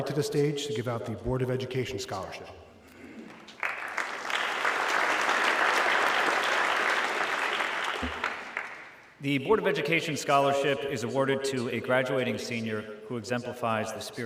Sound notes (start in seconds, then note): 5.2 audience clapping